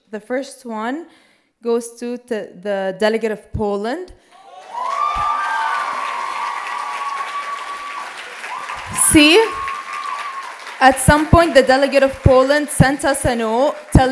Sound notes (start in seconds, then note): 3.8 applause and cheers